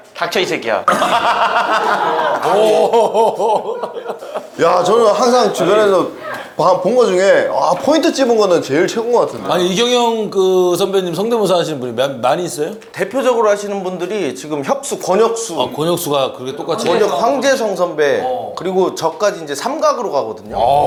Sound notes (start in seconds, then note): 0.8 ah ha ha ha ha